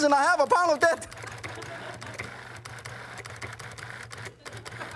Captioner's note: audience laughs